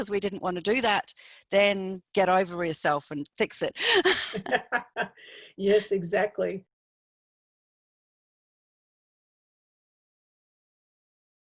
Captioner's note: laughs